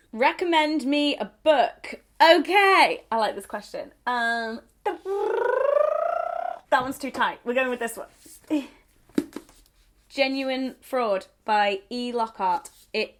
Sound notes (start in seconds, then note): 4.9 rolls tongue